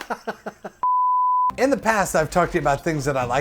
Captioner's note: laughs; beep